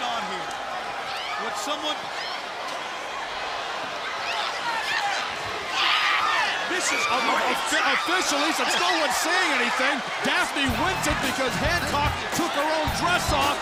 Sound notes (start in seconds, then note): 2.5 crowd cheering